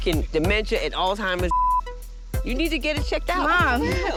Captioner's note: beep